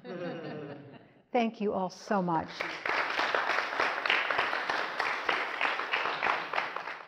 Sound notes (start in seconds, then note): 0.0 audience chuckles; 2.5 audience applauds